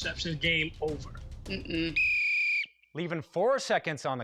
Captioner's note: whistle blows